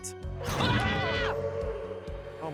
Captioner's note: both scream